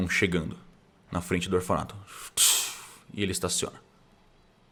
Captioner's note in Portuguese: tss